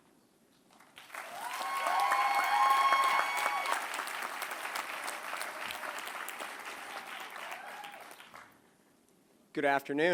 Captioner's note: applause